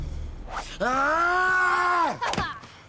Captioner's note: Jeff yelling; Manny laughing